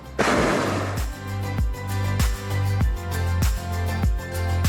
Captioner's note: burner roars; gentle music